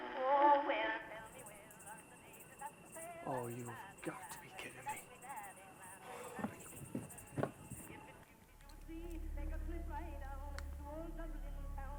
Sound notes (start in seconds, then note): 0.9 muffled music; 6.0 sighs; 8.7 muffled bright music with cheerful vocals